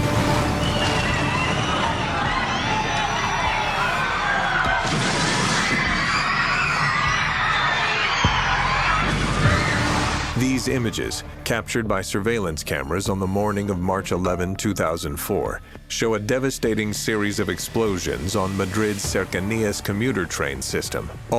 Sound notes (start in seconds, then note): 0.0 suspenseful music; 2.2 panicked screaming; 4.8 explosion